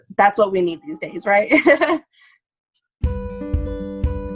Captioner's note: laughing; gentle guitar music